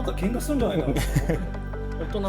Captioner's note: laughs